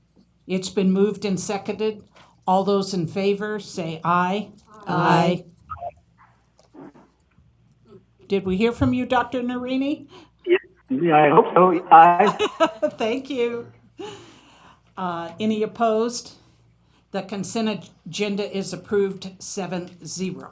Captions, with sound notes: CONSENT AGENDA? SO MOVED. SECOND. IT'S BEEN MOVED AND SECONDED. ALL THOSE IN FAVOR SAY, AYE. (SIMULTANEOUS AYES) DID WE HEAR FROM, DR. NERINI. I HOPE SO. AYE. THANK YOU. ANY OPPOSED?